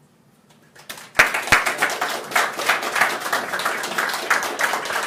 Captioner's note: applause